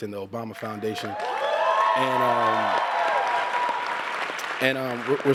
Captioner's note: cheers and applause